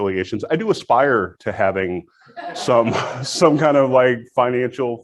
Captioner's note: audience laughs